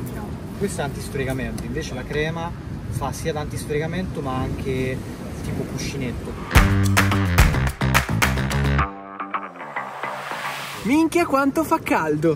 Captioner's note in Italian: Applauso